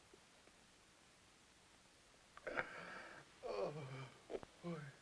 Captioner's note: sobs